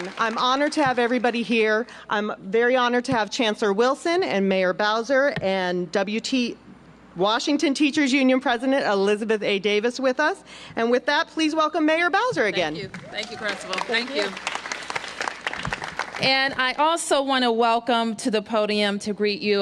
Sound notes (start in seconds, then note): 12.8 applause